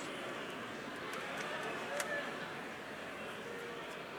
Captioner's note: crowd chattering